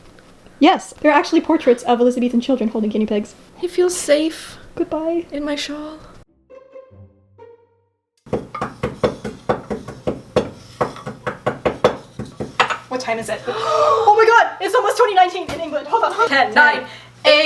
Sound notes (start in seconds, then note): 8.2 pestle and mortar banging; 13.4 both gasp